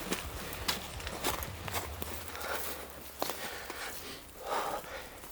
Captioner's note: footsteps rustling